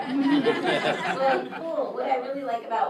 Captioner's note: group laughs